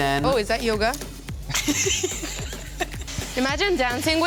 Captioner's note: laughs